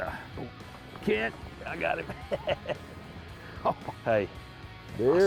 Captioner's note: laugh